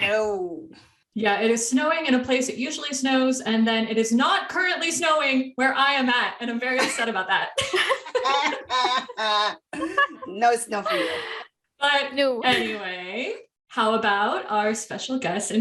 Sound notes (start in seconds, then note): 7.5 laughter